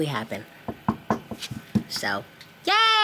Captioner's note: table tapping